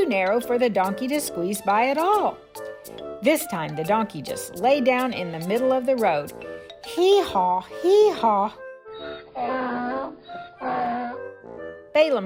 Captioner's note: hee-haw, hee-haw